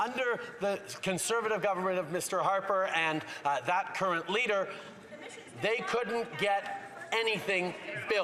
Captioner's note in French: voix de l'interprète